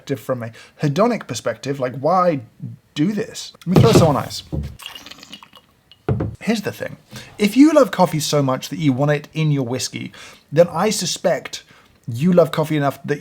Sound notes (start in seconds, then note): 3.8 slurping